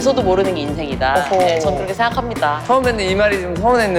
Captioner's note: haha